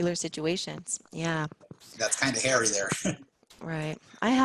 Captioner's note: laugh